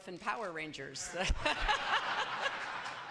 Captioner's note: laughter